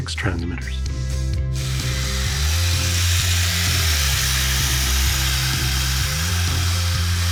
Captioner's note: vroom, vroom